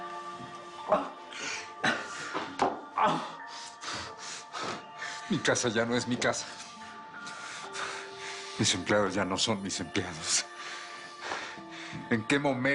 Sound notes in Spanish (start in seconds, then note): 2.9 Quejidos de Felipe